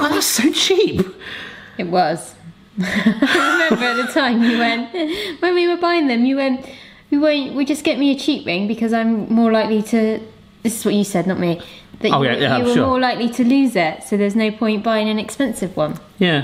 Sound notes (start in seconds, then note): 2.8 laughing